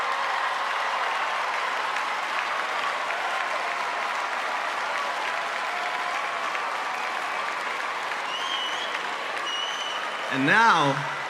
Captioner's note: cheers and applause